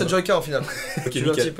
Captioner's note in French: rires